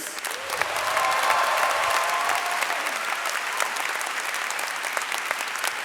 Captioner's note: audience cheering and clapping